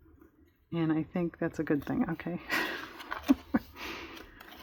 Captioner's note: laughs